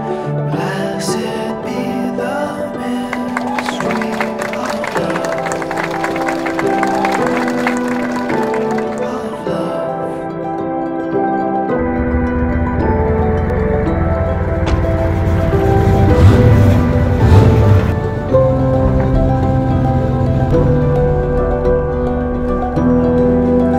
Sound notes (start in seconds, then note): 12.1 car engine rumbling; 18.1 quiet guitar music